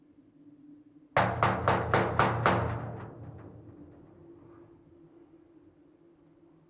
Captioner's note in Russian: стук